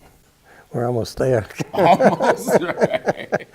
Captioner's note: both laugh